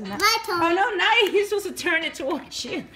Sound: voiceover

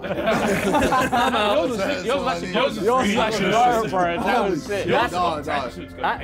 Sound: Sidemen laughing and talking over each other

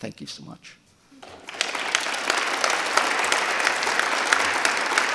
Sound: audience applauding

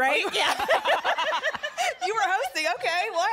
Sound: laughter

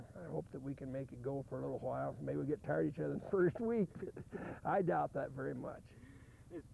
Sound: chuckles

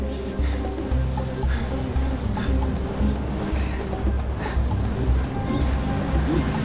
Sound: suspenseful music; Flavio panting

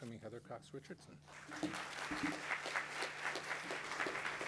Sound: crowd applauding

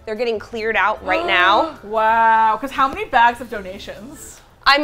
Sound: gasps

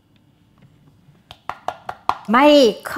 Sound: tapping; tapping

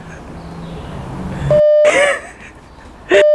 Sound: laughing; beeping noise; laughing; beeping noise

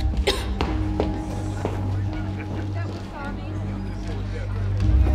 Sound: gagging; patrons murmuring

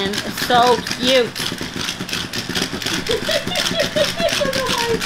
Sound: laughter

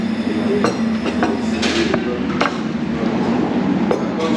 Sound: dishes clanking

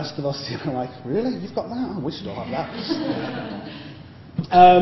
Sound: laughter

